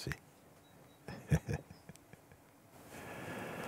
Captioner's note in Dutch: Mooji lacht